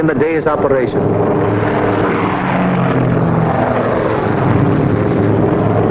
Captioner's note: plane engines roaring